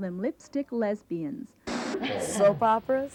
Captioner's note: static noise